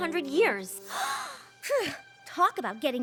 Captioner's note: gasps; scoffs